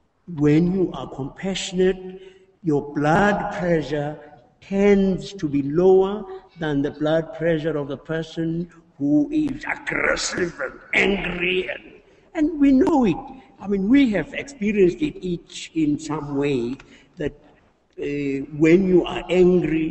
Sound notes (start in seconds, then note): none